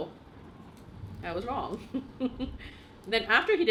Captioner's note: laughs